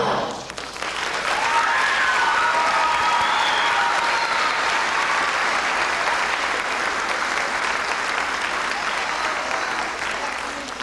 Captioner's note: applause